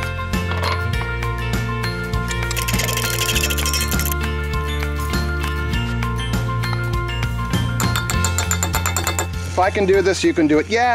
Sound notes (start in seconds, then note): 2.3 metal clinking; 7.8 metal tapping